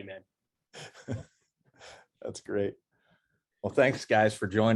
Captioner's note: laugh